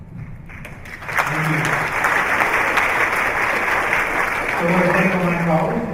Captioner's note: applause